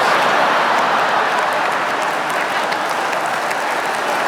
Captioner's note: audience laughing; audience clapping